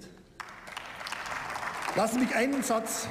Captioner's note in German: Beifall